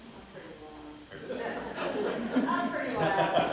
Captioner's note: laughter